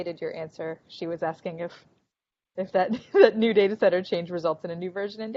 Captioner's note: laughing